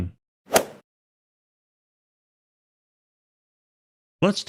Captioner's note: golf ball hit sound effect